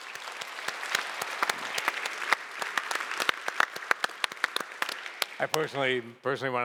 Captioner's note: applause